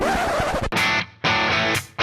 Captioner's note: record scratching; hard rock music